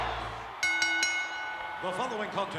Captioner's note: bell rings